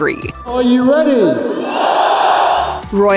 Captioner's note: cheers